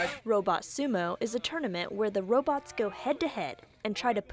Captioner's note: nats: robots moving